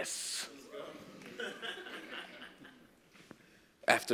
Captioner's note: laugh